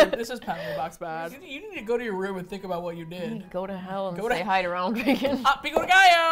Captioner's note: laughs; laughs